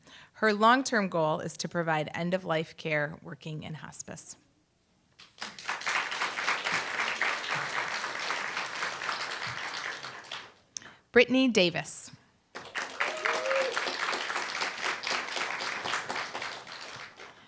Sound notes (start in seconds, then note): 5.2 applause; 12.5 applause, cheer